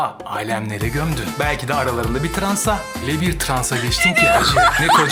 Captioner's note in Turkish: kahkaha